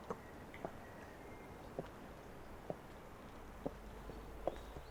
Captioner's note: none